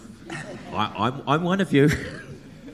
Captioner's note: audience laughs